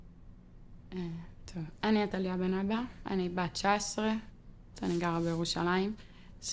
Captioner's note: speaking foreign language